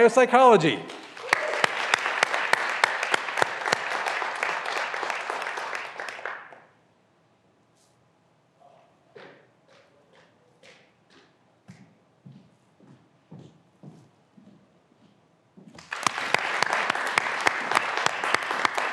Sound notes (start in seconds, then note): 0.0 graduands cheering and applauding; 15.7 graduands applauding